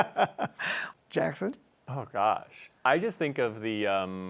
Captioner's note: laughter